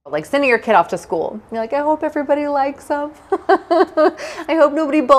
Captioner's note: chuckling